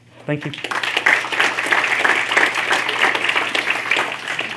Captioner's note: applause